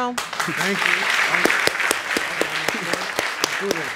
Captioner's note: audience applauding